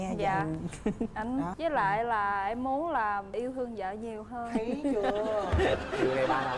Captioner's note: the husband chuckles